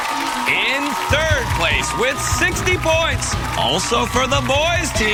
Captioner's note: boys cheering